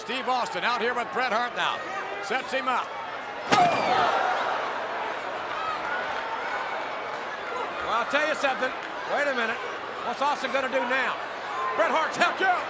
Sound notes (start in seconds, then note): 3.5 Bret Hart thuds